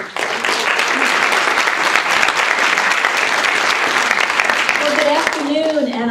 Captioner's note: applause